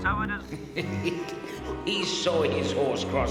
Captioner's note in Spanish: riendo